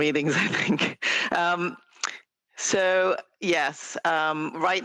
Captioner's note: laughter